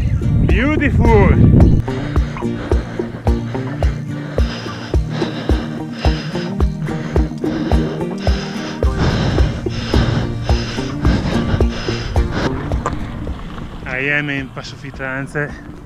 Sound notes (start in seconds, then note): 1.8 I'm still panting heavily